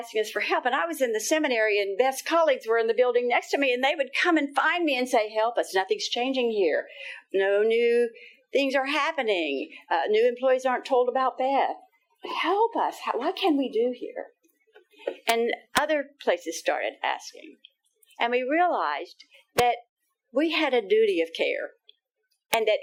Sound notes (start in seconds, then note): none